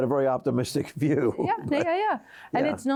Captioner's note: chuckles